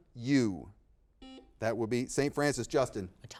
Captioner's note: buzzer beeping